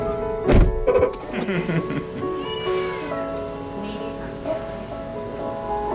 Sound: laughter; meow

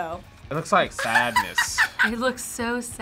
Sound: React laughs

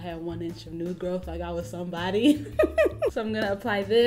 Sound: chuckles

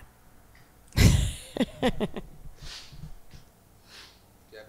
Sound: laughing

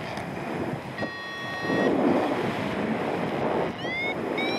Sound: low pitch alarm sounds; wind whooshing; alarm accelerates; wire reeling

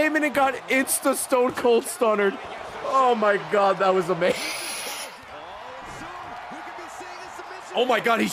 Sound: laughs

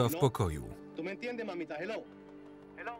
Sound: speaking in a foreign language

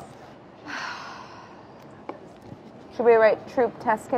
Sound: sighs

